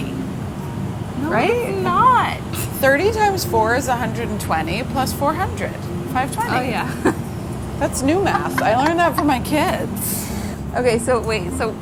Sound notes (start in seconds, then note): 8.2 laughter